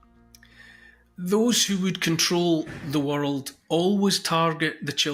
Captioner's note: thud in background